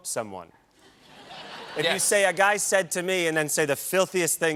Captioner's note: laughter